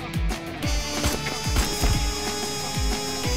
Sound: gunshots

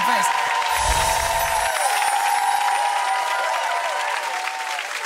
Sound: audience applauding

